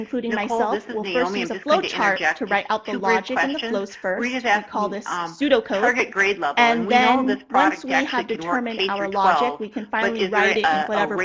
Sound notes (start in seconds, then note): 6.5 murmurs